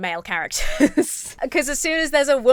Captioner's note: chuckles